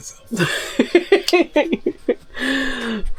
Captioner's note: laughter